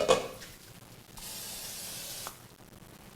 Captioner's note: sound of can spraying